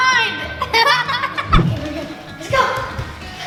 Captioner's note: laughter